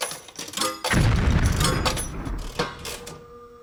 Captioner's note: exploding